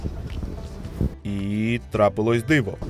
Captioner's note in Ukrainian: закадровий голос